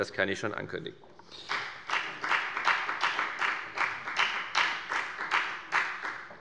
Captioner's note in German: Beifall bei der FDP